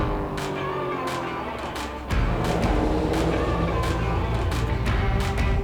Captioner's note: energetic music begins; car engine roaring